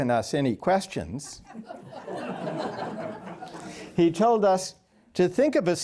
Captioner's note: laughter